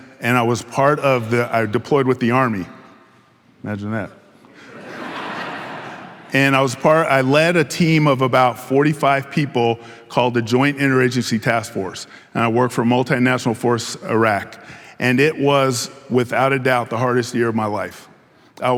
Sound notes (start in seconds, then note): 4.5 audience laughing